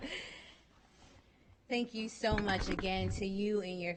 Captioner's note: chuckling